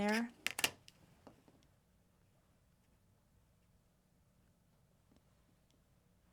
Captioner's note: scissors snipping